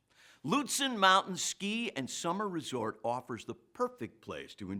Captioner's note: none